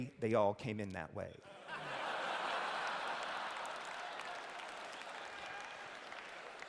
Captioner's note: laughter